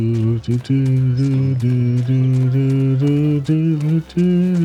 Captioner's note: humming